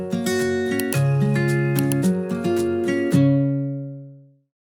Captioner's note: mouse clicking